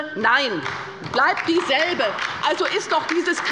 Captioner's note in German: Beifall bei der LINKEN